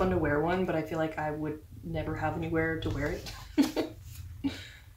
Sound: laugh

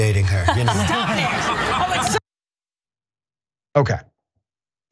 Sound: laugh

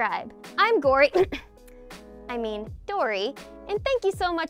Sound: coughs

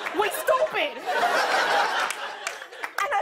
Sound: laughter

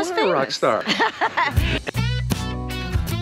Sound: laughing happily; easy-going rhythmic music

